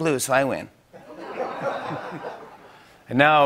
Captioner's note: laughter